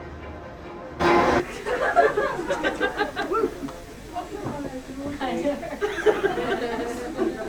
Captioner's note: audience chattering